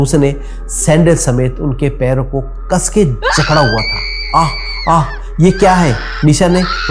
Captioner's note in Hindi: चीखने की आवाज़